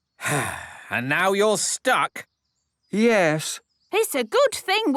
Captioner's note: sigh